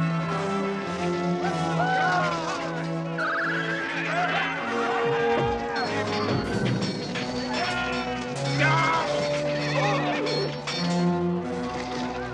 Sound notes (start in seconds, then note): 0.2 hitting; 0.2 yelling; 3.8 men yelling; 4.7 horse neighing; 7.8 slow, tense orchestral music